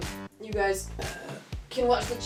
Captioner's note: burps